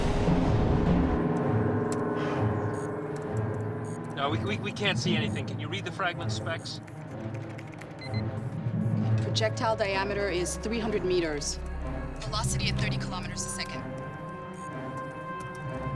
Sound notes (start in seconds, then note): 8.0 alarm